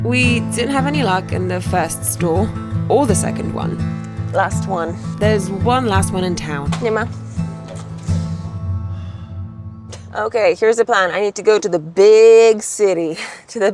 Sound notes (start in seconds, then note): 7.0 speaks foreign language; 8.8 grandpa sighs; 9.0 laughs